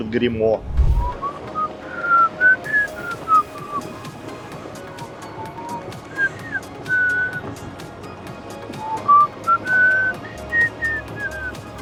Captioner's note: whistling